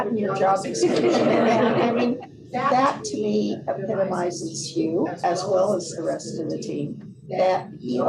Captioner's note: laughter